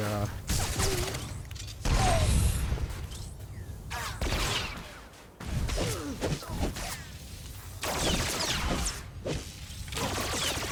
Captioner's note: gunshots